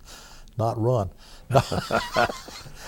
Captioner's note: laughter